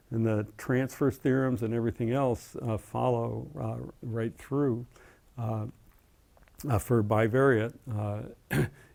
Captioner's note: cough